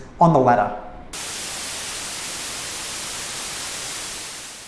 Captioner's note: static crackling